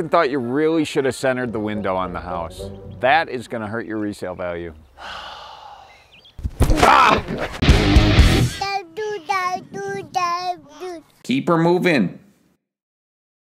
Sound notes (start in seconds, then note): 4.9 sighs; 7.6 upbeat music